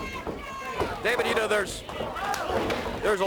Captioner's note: crowd chatter